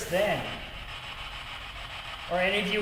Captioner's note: static buzzing